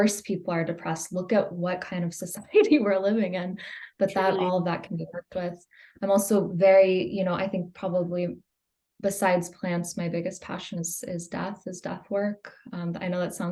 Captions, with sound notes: Of course people are depressed. Look at what kind of society we’re living in [laughs]. But all of that can be worked with. I’m also very, I think, probably besides plants, my biggest passion is death, is death work.